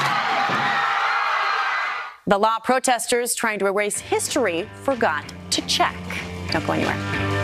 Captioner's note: cheers and applause